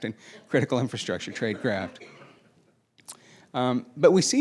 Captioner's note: laughing